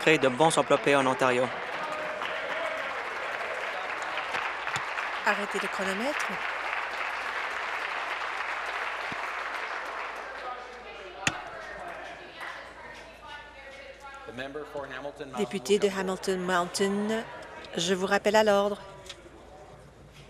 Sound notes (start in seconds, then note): 5.0 applause; 14.9 conversation din